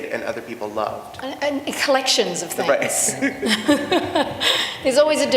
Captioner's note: laughter